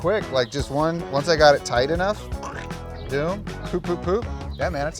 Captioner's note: cutting sound